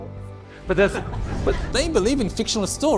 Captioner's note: laughs